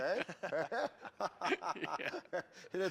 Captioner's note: laughter